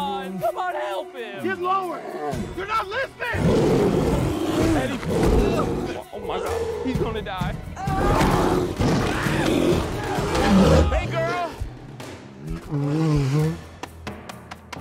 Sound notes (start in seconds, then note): 3.3 growling viciously; 7.8 screaming; 8.0 bear snarling